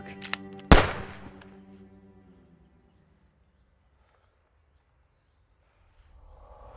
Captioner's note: cocks hammer; fires pistol